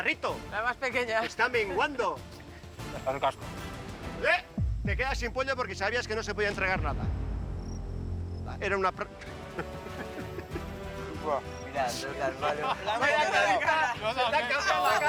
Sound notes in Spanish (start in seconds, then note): 9.0 ríe